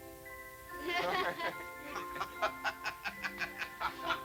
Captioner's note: laughter